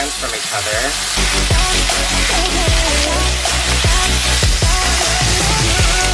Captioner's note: pop music; bacon sizzling